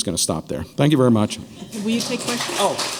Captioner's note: applause